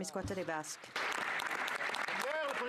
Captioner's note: cheering/Applause